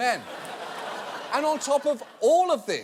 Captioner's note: audience laughing